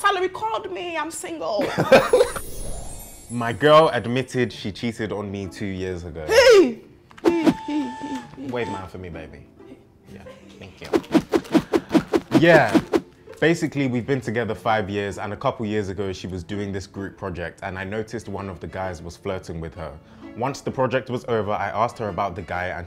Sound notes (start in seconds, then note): 1.6 laughs; 10.9 air whooshing